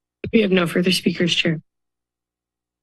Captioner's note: none